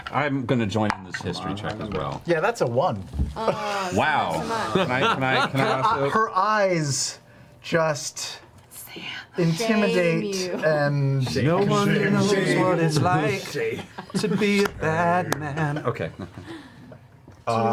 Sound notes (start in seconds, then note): 10.3 whispering; 13.9 singing